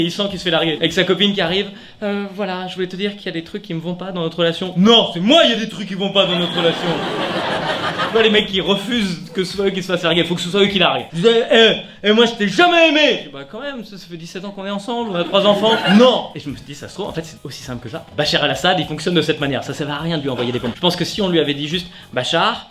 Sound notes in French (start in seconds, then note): 11.3 grosse voix; 13.4 petite voix; 16.0 Grosse voix